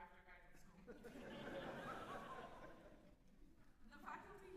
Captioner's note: laughter